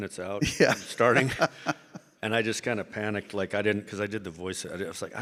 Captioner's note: laughs